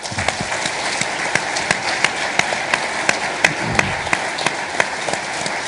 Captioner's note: audience applauding